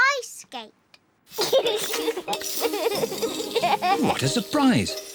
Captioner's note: giggles